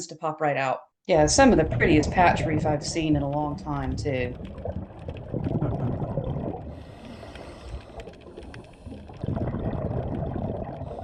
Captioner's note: underwater noises